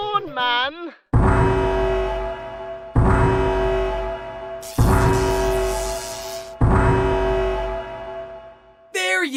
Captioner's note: siren blares